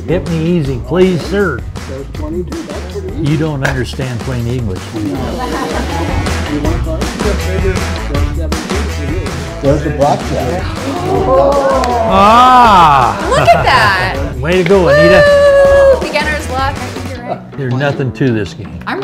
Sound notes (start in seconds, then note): 5.2 all laugh; 10.6 all gasp